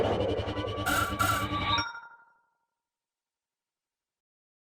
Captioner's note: electronic sounds